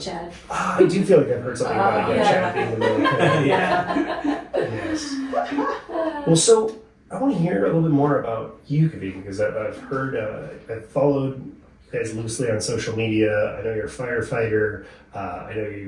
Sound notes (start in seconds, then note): 1.6 laughing